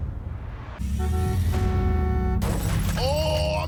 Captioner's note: honking